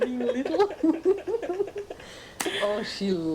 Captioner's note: laughter